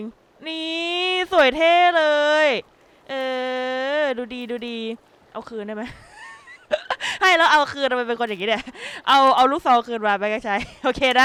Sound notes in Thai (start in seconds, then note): 5.8 หัวเราะ